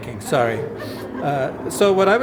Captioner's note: laughter